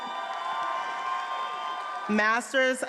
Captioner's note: attendees applauding and cheering